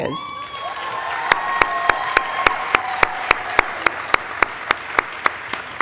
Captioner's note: audience applauding and cheering